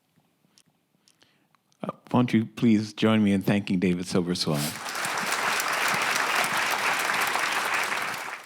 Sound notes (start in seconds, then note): 4.6 audience applauding